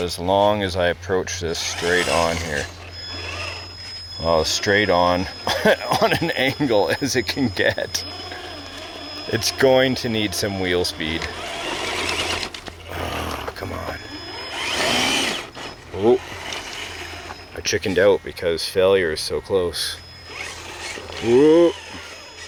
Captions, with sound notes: as long as I approach this straight on here. (engine roaring) Oh, straight on (laughs) on an angle as it can get. (engine roaring) It's going to need some real speed. (engine roaring) Oh, come on. (engine roaring) Oh, I chickened out, because failure is so close. (engine roaring) Ooh.